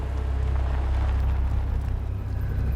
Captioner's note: aircraft noise